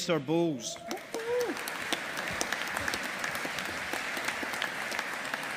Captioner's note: audience applauding